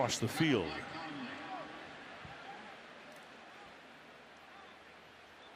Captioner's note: pa announcement